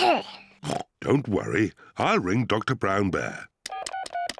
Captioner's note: coughs; oinks; beeping